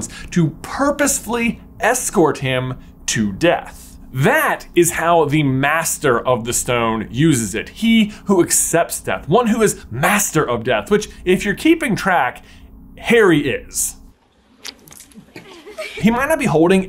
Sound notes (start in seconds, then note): 14.5 splurt; 15.0 girls giggling